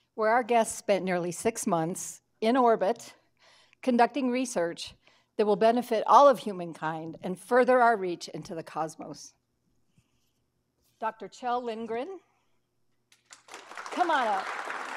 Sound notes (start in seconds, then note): 13.2 audience applauding